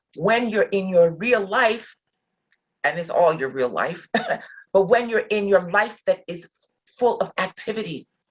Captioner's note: chuckle